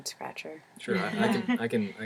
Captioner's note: laugh